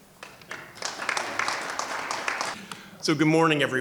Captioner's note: audience clapping